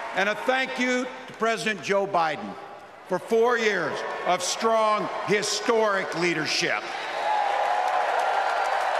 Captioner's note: applause